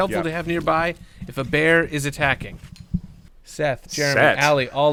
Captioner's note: crew flips paper